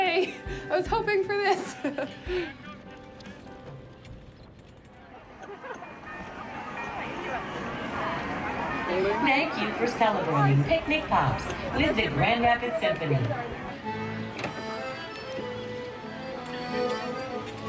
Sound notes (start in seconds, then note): 4.7 crowd chattering indistinctly; 6.5 bells ringing; 14.6 upbeat music